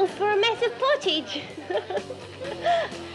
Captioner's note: laughing